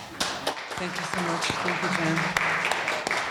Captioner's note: audience applauding